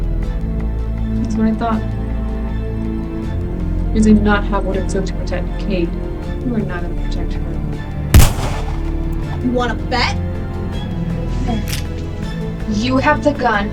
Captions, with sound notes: That's what I thought You did not have what it took to protect Kayde. You are not going to protect her (Gunshot) You wanna bet? (Gun cocks) Blair, you have the gun